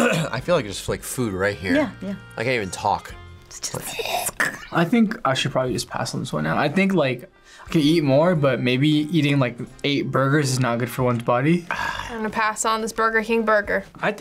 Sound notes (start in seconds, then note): 0.0 clears throat; 4.0 gags; 11.6 scoffs